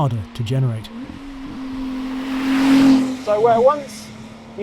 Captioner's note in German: Motor brüllt